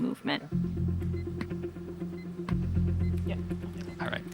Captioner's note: device beeping, hammer tapping in rhythm